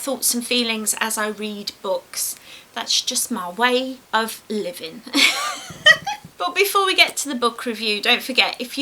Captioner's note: laughs